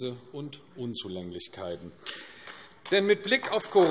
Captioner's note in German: Beifall AfD